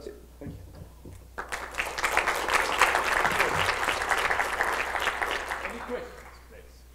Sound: clapping

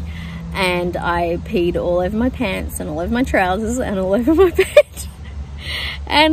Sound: laughs

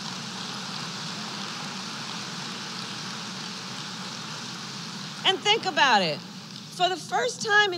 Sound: applause

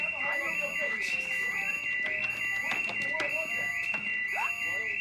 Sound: alarm continues blaring

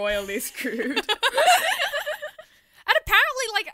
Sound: hosts laugh

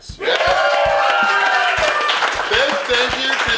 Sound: audience cheering and applauding

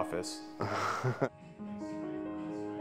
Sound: laughs

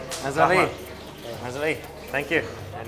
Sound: speaking foreign language

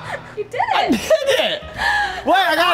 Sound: laughs

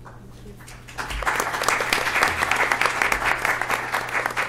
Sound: applause

